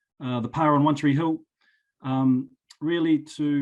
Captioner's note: speaking foreign language